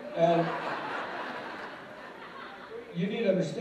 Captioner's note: laughter